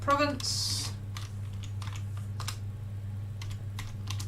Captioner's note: keyboard clicking